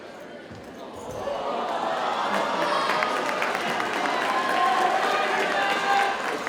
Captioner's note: audience cheers and applauds